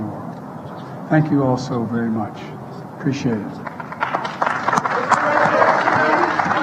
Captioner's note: applause